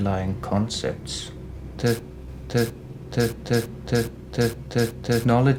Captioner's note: stammering continues